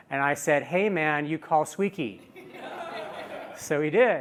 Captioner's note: laughter